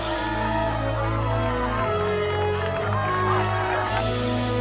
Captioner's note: crowd cheering and clapping